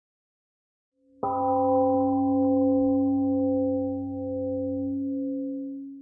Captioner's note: temple gong rings and fades